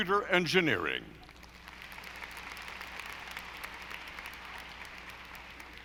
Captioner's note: audience applauding